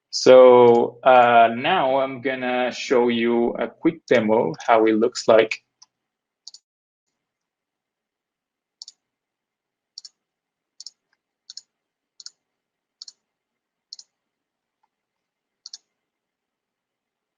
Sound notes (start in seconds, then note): 5.7 mouse clicking